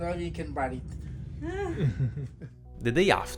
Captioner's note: laugh